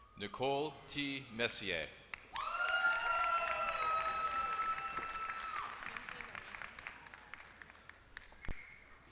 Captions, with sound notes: Nicole T. Messier. >> [APPLAUSE]